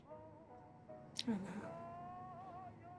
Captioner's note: quietly